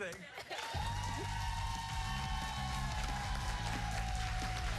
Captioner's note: cheers and applause